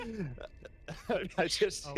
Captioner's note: laughs